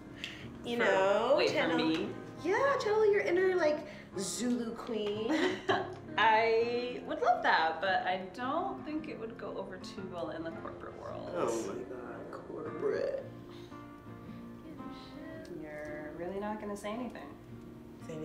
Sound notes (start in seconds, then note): 5.2 laughs